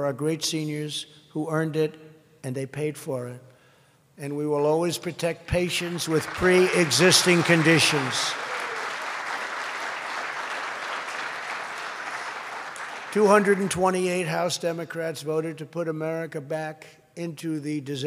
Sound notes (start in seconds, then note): 8.3 applause